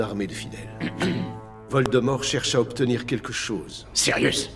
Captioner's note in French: Maugrey se racle la gorge